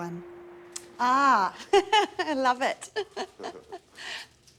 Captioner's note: laughs